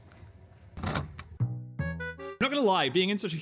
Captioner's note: lock rattles; bright plucky music